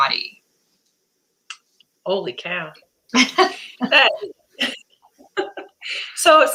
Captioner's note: laughter